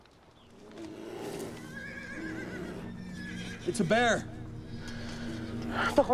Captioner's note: horses stirring, growling